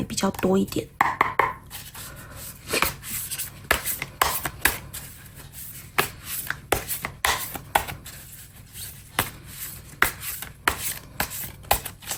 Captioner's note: drawing cards